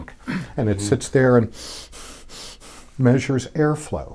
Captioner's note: inhales and exhales rapidly